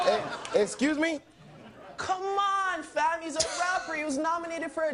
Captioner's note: crowd laughing